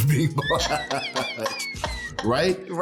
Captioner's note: laughing